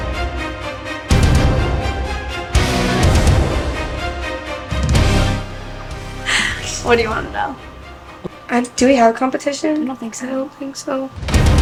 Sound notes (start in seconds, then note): 6.2 laughing